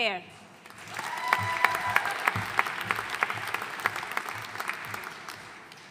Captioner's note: audience cheering and applauding